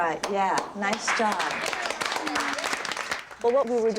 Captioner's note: applause